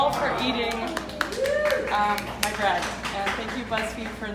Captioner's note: group cheering